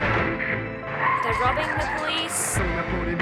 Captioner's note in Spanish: neumáticos chillan